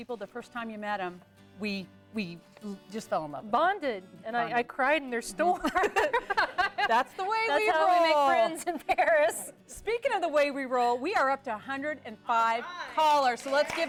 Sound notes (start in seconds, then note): 5.6 �laughing�; 13.0 �applause�